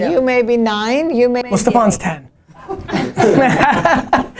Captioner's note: laughter